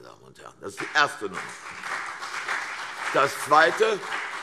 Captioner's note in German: Beifall CDU und BÜNDNIS 90/DIE GRÜNEN